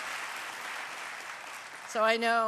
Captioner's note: applause